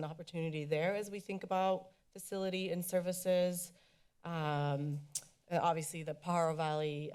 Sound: tongue clicks

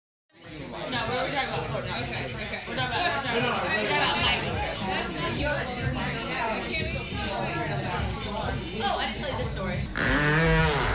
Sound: bar Noise

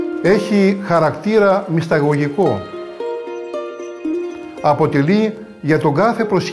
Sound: speaks in foreign language

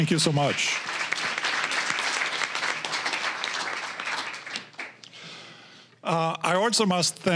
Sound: applause

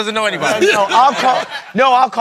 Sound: laughter

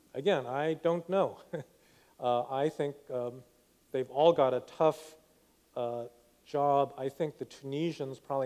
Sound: laughs

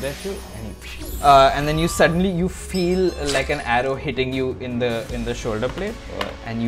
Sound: whip

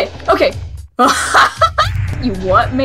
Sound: incredulous laughter

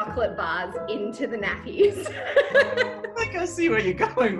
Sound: laughs

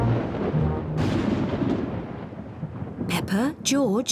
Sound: thunder rumbles

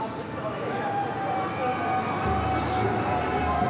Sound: cheering; lively music

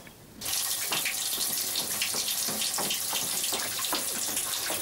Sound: water running

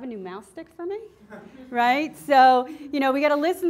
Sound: class laughing

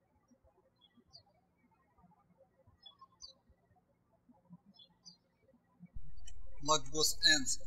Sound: birds chirping

